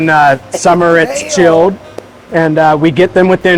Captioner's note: voice drowns